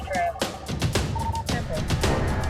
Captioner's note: beeping